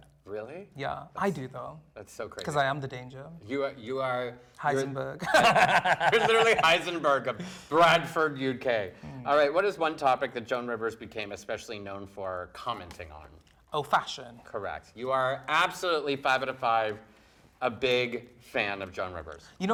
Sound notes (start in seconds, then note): 5.2 laughing